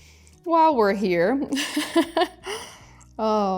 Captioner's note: laughs